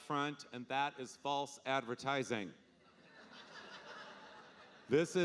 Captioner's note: audience laughing